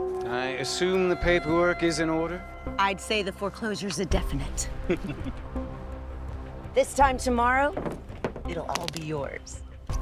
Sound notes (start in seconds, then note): 4.8 Aloysius laughs